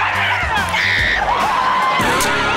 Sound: screaming

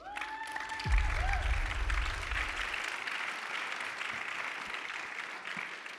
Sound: audience cheers and applauds

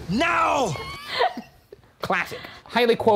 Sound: laughing

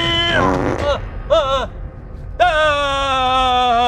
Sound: farts

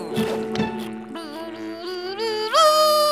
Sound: humming

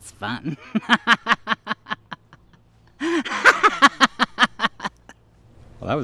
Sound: laughs maniacally

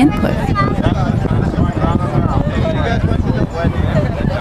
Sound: wind in the microphone and people chattering

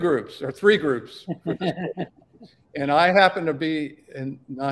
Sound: laughter

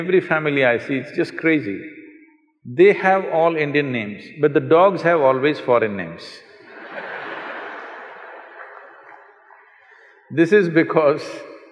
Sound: laughter

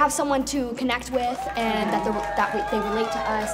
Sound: crowd cheers

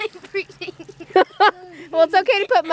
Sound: laughs

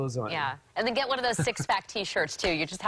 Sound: laughter

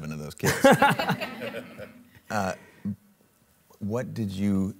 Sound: and Audience laughing

